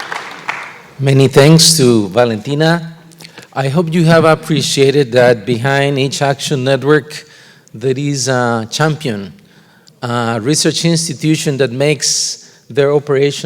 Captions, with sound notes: DIFFERENT COUNTRIES. THANK YOU. [APPLAUSE] >> MANY THANKS TO VALENTINA. I HOPE YOU HAVE APPRECIATED THAT BEHIND EACH ACTION NETWORK,